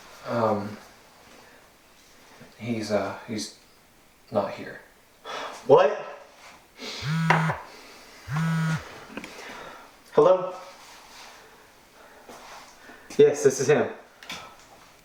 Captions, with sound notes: - Um, he's, ah, he's not here. - (sighing) What? (phone vibrating) Hello? Yes, this is him.